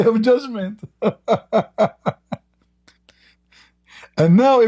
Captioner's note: Ketawa